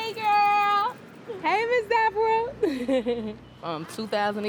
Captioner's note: laughs